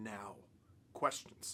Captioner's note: in french